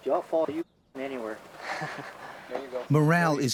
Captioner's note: voiceover